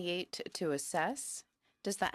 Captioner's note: speaking in french